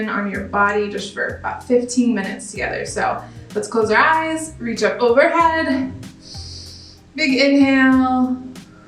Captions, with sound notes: your attention on your body just for about 15 minutes together. So let's close our eyes, reach up overhead, (inhales) big inhale,